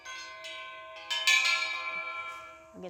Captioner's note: chimes ring deeply